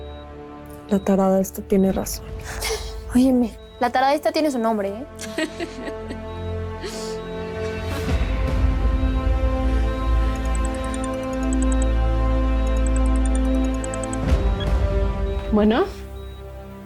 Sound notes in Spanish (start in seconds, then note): 0.2 Risas; 5.9 Suena un celular